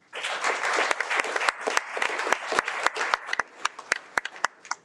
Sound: audience clapping

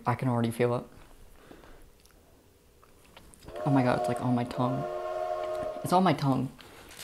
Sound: train whistle

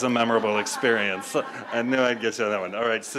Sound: audience laughs

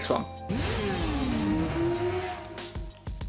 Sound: motor bike engine revving

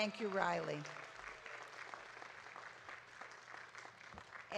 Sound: audience claps

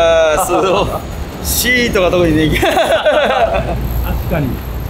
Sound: laughs

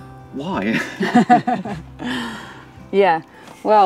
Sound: both chuckling

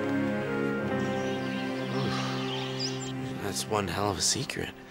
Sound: birds chirping

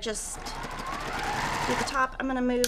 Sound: sewing machine resounding

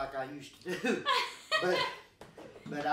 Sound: chuckling

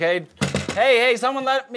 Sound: knocking

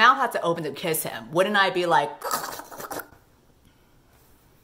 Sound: choking sound

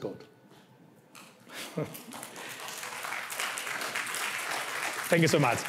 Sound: applause

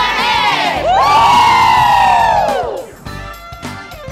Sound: cheering

